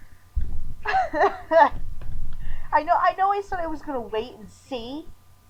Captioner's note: awkward laughter